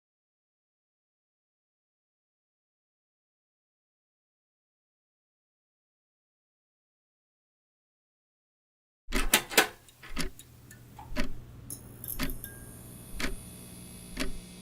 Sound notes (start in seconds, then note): 8.8 clock ticking begins